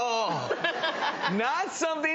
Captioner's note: laughing